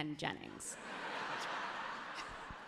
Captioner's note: crowd laughs happily